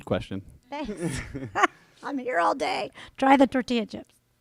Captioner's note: laughter